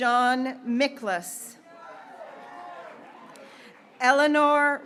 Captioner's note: graduates cheering